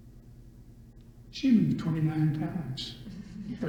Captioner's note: all laugh